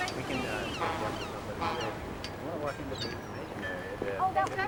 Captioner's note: foghorn blows